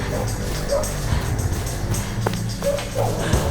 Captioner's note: gasping